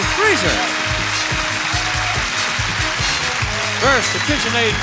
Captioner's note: audience applauds